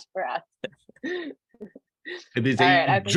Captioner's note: laughter